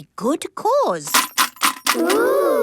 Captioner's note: coins jangling